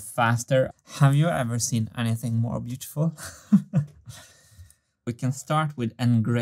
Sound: chuckles

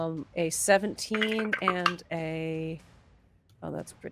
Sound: dice clatter

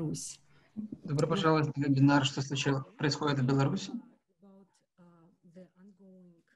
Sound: speaking foreign language

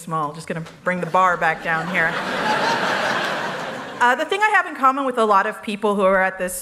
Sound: laughter

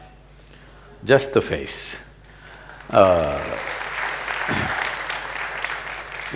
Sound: applause

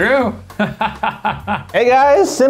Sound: laughs

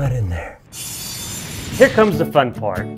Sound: whooshing

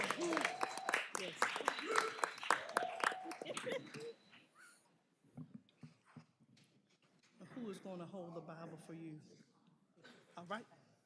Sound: cheers and applause

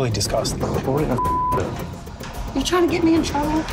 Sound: beeping

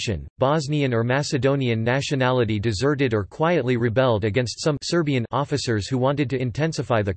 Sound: Serbian

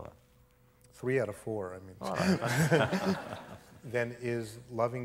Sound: laughter

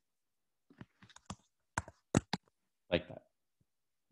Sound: typing

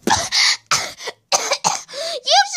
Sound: coughing

